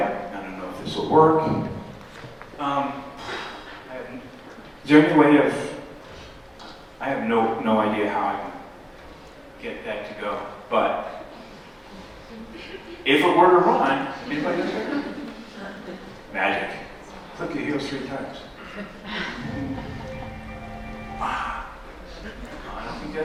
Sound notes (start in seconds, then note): 14.5 laughter; 18.6 laughter